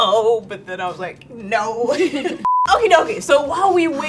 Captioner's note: laughs